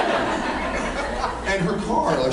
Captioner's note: laughs